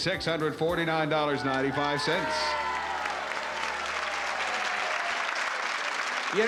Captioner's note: applause